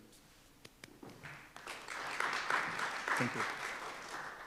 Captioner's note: applause